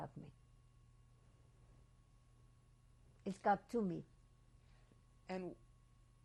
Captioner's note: pauses for 3 seconds